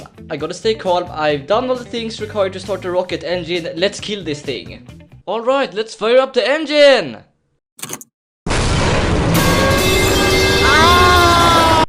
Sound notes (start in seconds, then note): 7.6 click; 8.4 rocket blast